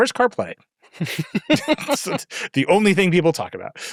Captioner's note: laughing